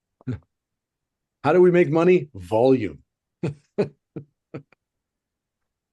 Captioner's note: chuckles